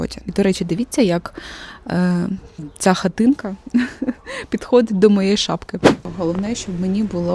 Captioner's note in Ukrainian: сміх